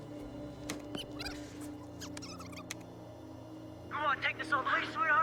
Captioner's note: tape squeaking